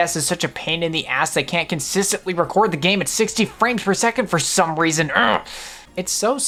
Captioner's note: grunts